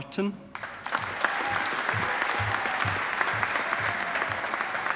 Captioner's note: audience applauding